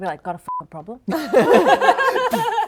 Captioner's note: laughing